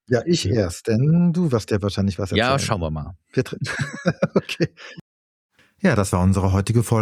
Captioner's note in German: gelächter